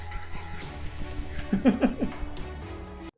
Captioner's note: laughs